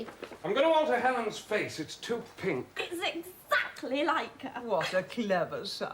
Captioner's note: SOREL, enthusiastic